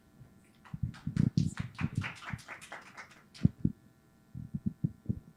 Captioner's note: audience applauding